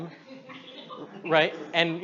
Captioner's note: audience laughs